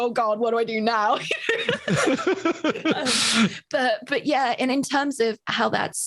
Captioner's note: both laughs